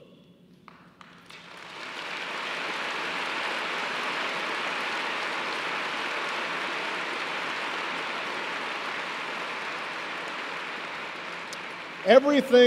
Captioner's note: applause